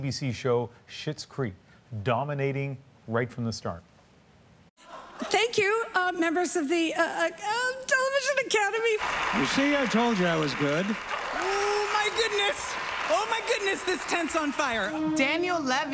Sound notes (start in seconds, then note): 13.4 applause